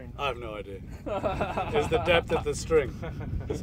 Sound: laughing

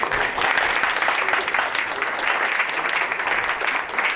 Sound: crowd applauds

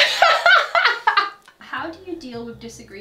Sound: laughing

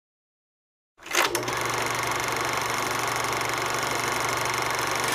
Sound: sound of movie projector running

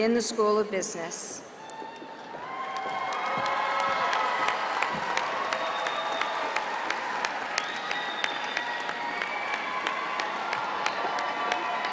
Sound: cheering

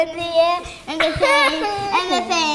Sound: laughs

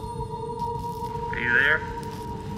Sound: radio

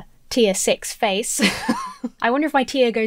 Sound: laughs

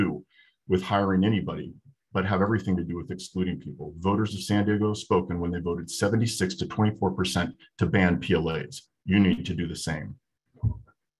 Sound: speaking way to fast

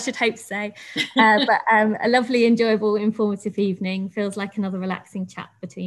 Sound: laughs

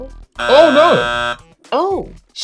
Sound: buzzer buzzing

